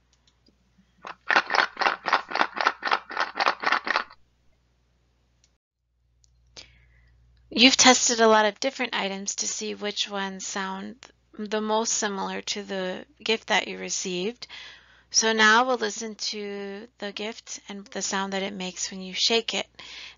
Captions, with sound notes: (shaking sound) You've tested a lot of different items to see which ones sound the most similar to the gift that you received, so now we'll listen to the gift and the sound that it makes when you shake it,